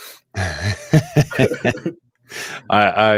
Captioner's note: laughter